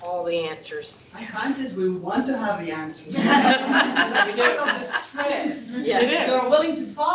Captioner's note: laughter